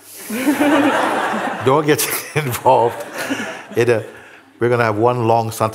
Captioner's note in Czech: smích